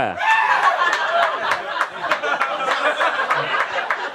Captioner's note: audience laughs